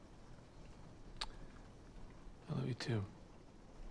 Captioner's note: clicks tongue